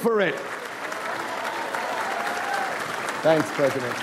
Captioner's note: audience applauds